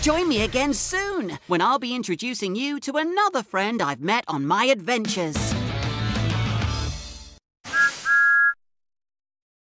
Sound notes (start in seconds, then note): 7.7 thomas whistles